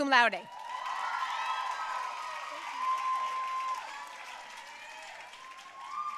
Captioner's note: audience cheering and applauding